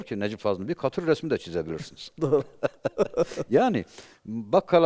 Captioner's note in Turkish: kahkaha